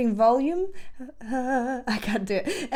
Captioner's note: vocalizes